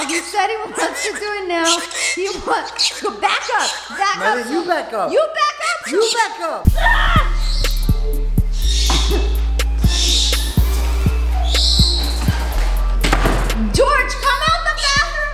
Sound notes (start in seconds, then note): 7.0 yelling; 8.2 bird squawking; 12.8 door closing